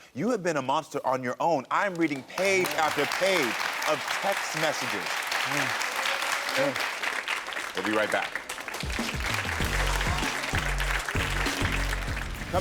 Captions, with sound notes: You have been a monster on your own. I'm reading page after page of text messages. (audience applauds) We'll be right back. (audience applauds)